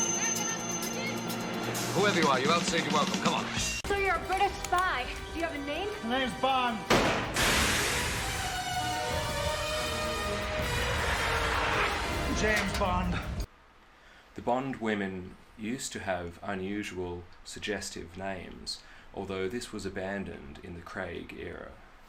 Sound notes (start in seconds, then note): 6.9 gunshot, whoosh; 13.0 click